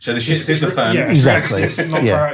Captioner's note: laughter